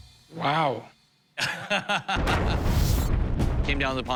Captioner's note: laughs